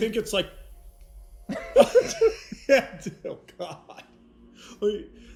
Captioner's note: laughing